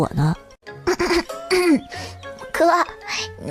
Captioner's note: cough